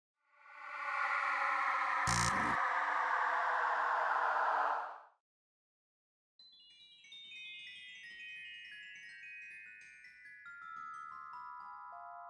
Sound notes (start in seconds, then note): 0.7 spaceship whooshing; 2.0 logo screeching; 6.6 bells tinkling